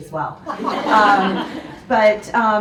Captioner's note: audience laughs